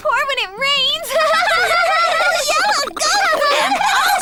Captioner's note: laughing